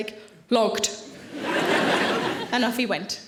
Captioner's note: audience laughing